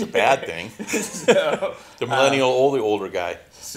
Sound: both laughing

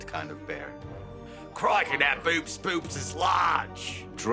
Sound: in Australian accent

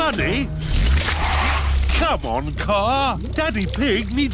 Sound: wheels screech

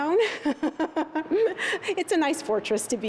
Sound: laughter

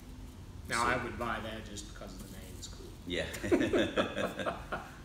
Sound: laughing

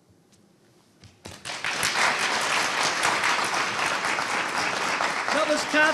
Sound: audience applauding

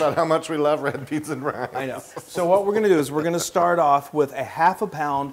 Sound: laugh

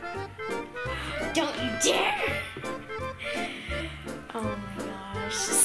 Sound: gasps

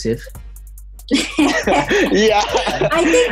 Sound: laughing

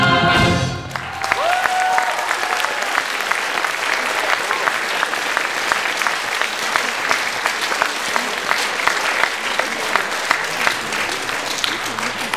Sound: applause

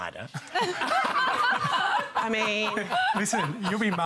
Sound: laughter

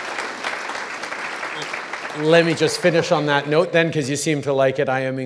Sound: applause

